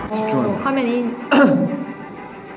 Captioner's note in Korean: 기침